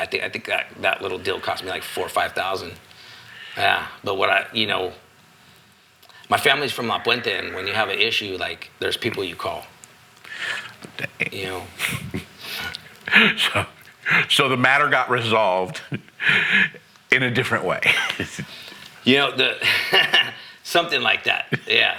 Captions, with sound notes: I think that little deal cost me like four or 5,000. Yeah, but what I, you know, my family's from Mapuente and when you have an issue, like, there's people you call. (laughing) So the matter got resolved in a different way. You know, something like that, yeah.